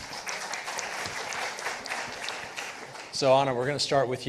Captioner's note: participants applauding